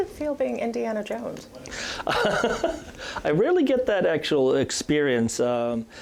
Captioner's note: laughs